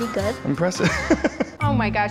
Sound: laughs

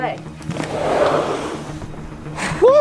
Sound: door scraping

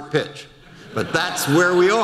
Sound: audience laughter

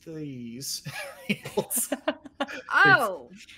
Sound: laughter

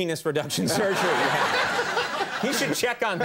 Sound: audience laughs; Tom laughs

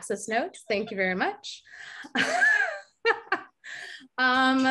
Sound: laughs

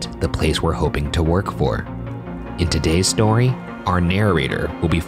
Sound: none

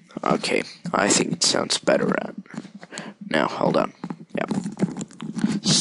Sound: adjusting Microphone

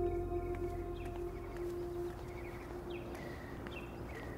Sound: birds chirping

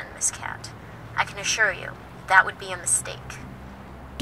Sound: woman on phone

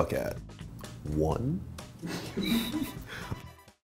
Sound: interviewer chuckles

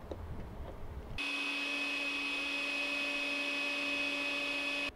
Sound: drills

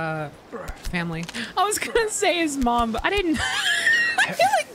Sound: wheeze

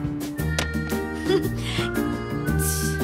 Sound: chuckles

